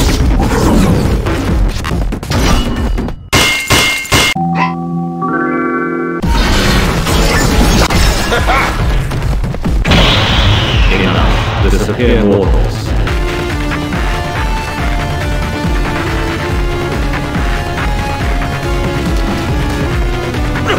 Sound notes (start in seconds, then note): 8.2 confident idiot laugh